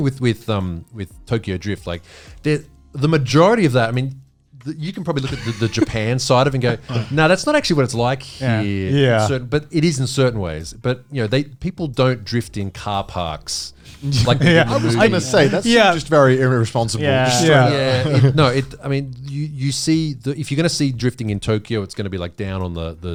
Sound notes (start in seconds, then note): 7.6 speaking in foreign language; 8.4 all laughing; 15.0 speaking in foreign language